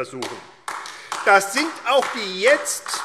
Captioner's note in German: Beifall AfD